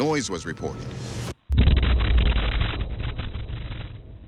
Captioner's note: thunderous boom